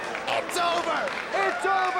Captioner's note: spectators applauding